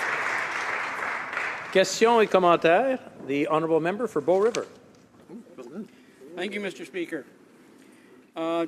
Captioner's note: some Applause